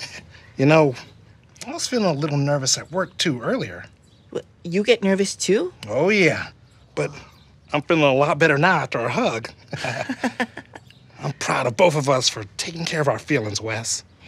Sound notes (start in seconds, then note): 9.5 both laugh